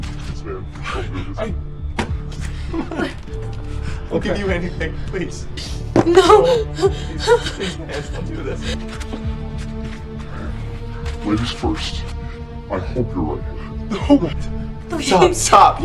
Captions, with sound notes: - Please, man, don't do this. Come on! I'll give you anything, please. - No! (sobs) - No, please! Please, man, don't do this! (tense music) - Ladies first. I hope you're ready for this. - No! What? Stop, stop! - Please!